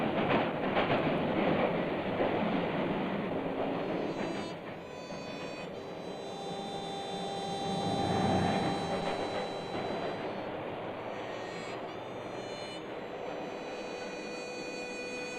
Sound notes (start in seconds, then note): 0.0 train rumbling; 2.3 sad harmonica music; 3.7 train rumbling; 12.1 sad harmonica music; 12.1 train rumbling